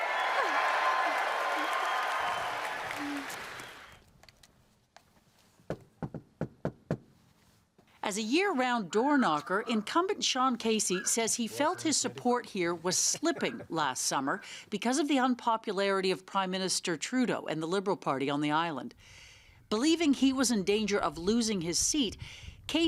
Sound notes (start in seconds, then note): 0.0 cheering; 5.7 knocking